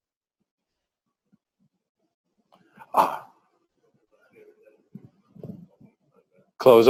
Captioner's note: pause